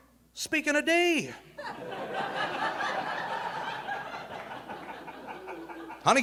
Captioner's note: audience laughing